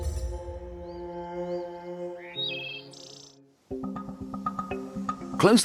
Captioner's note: dramatic music; birds chirping